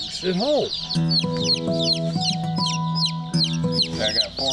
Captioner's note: chicks chirping